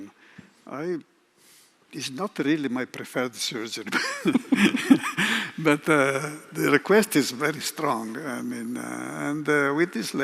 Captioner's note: laughs